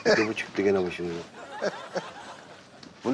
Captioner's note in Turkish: Gülme sesi